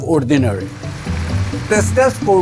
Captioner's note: machines whirring